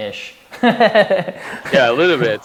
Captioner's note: laughs